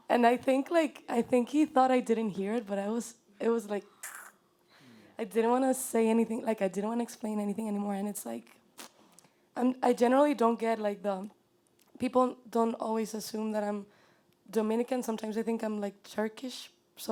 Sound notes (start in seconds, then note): 4.3 chokes